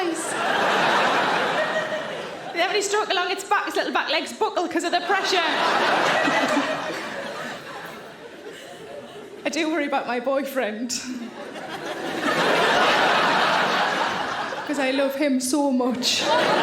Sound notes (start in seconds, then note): 0.0 audience laughing; 5.0 audience laughing; 11.0 audience laughing